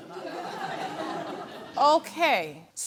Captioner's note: audience laughs